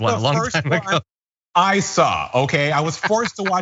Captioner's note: laugh